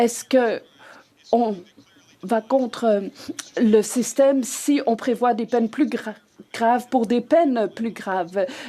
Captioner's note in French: voix de l'interprète